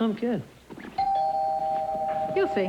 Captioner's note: doorbl chimes